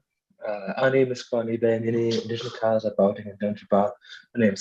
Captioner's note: non-english speech